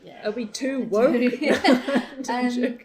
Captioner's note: both laugh